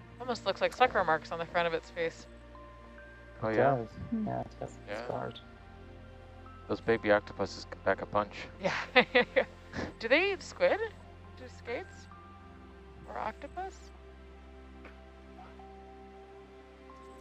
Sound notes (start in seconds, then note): 8.6 laughs